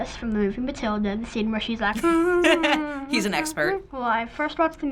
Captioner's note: laughing